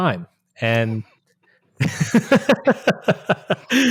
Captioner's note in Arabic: يضحك